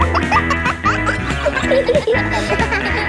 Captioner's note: pop music playing; kids laughing